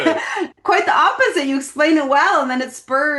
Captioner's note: chuckles